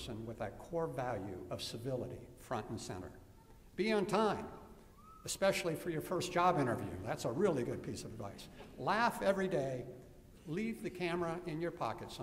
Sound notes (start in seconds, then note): none